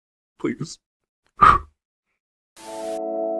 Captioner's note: blows out candle